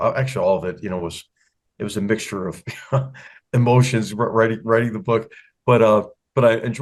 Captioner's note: laugh